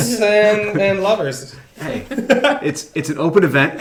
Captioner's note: laughs